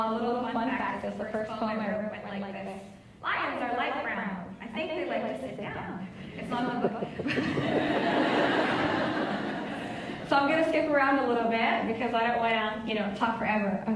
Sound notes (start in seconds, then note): 6.2 laughs